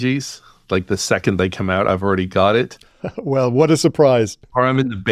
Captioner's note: laughs